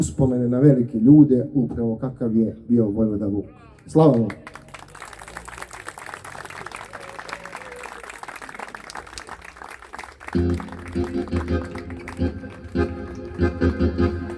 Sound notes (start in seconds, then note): 5.9 applause